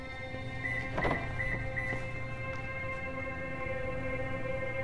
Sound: car unlocking

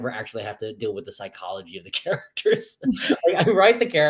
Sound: laughs

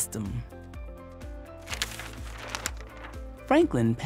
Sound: page crinkles

